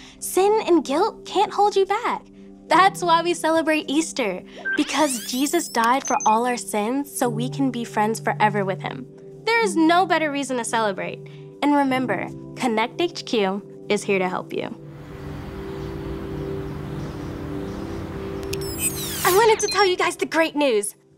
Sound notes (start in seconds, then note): 14.8 serene music; 14.9 birds chirping